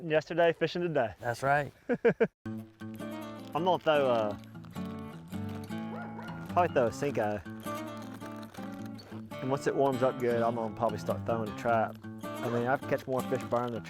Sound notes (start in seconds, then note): 1.8 chuckles